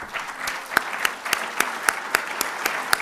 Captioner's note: applause